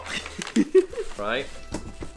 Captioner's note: laughs